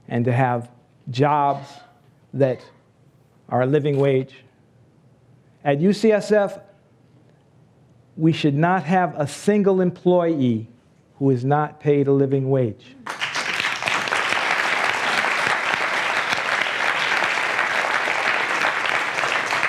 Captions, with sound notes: and to have jobs that are a living wage. At UCSF we should not have a single employee who is not paid a living wage. (applause)